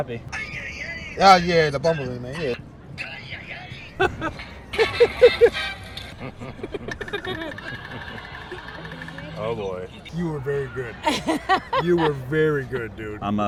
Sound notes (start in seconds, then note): 3.5 people laughing; 11.3 laughing